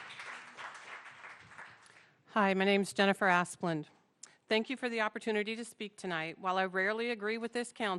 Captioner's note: applause